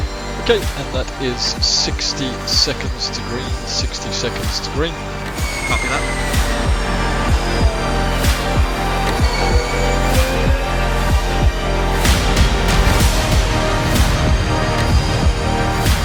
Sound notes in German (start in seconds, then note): 7.8 elektronische Fahrgeräusche; 7.8 sich steigernde Musik